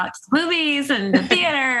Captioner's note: laughter